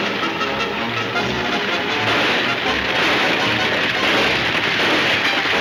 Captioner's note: gunshots banging